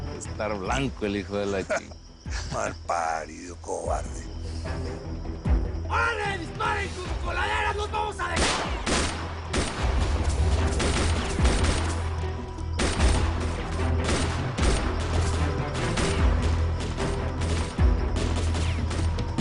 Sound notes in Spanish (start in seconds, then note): 1.5 Risas; 8.7 Disparos